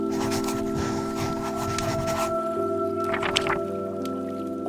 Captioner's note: rustling; scribbling?; rustling